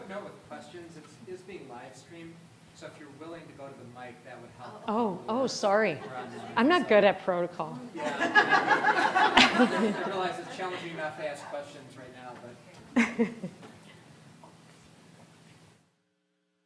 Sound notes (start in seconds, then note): 7.8 all laughing; 12.9 laughing